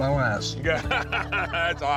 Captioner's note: laughter